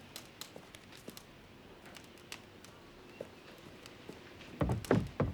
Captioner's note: fire crackling